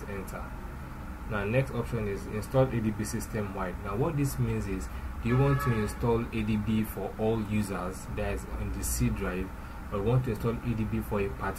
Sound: car horn

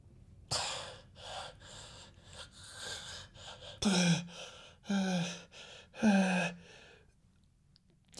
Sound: laboured breathing

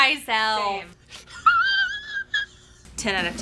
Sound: laughing

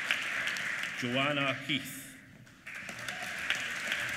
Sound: applause

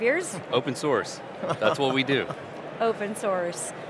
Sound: laughs

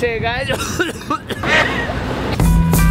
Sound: dying cough

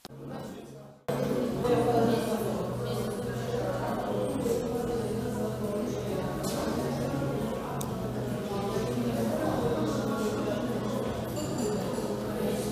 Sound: cafe buzz

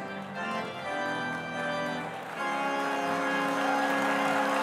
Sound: audience applauding

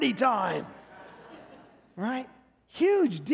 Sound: congregation laughing

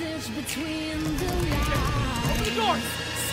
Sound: door bangs

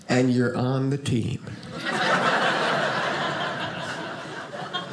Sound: audience laughing

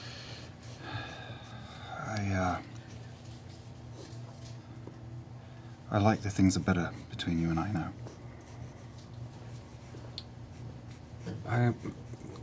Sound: sighs

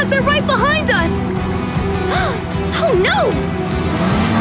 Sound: gasping

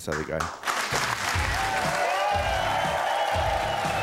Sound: audience cheering

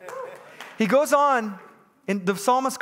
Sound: congregants laughing; congregants clapping hands

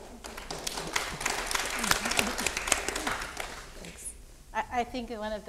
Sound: audience clapping

